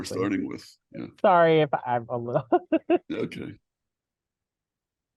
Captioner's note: laughs